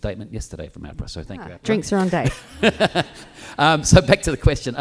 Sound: laughs

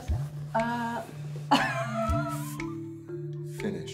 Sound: laughing

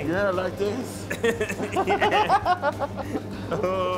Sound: lauging

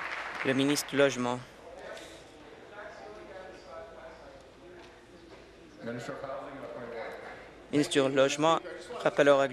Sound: applause

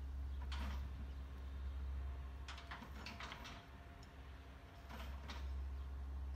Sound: chains being piled in the back of the pickup

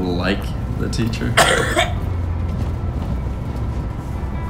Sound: loud cough

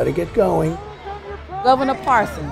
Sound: crowd

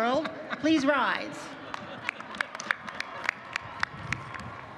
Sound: applause

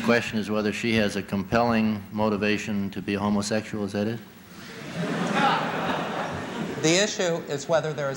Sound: laughter

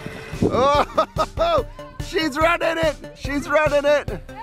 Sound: laughs

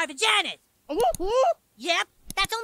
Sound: Kenny exclaims

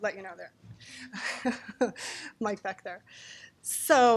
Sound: laughing

